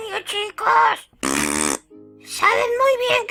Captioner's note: blows raspberries